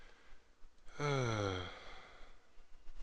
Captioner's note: sigh